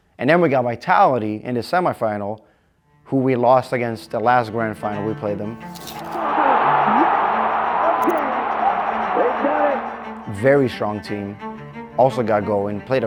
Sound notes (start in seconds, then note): 6.2 muffled cheering